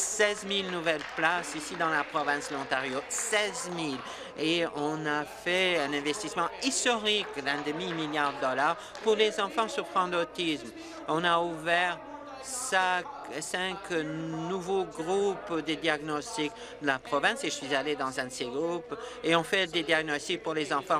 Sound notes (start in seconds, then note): 5.4 applause